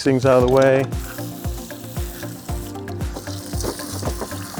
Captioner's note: hose sound